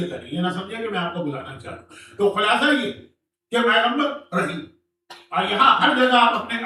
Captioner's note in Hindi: हंसी